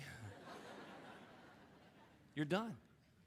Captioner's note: audience laughing